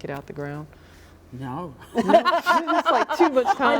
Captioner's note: all laughing